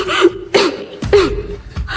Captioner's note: coughing